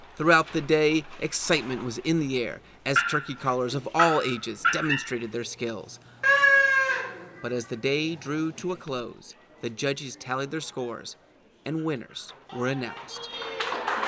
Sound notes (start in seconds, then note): 6.2 turkey call honking